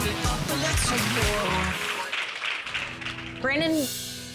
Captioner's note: clapping